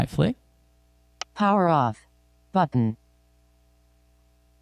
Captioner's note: automated Female Voice